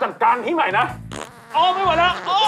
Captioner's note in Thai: ผายลม